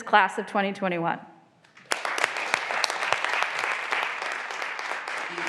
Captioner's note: graduands applauding